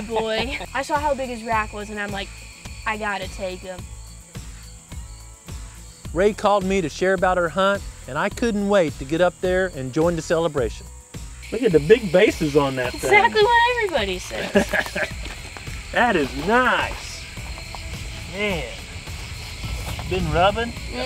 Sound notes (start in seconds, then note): 14.2 chuckling